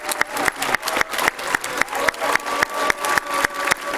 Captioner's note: applause